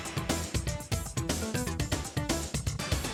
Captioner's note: none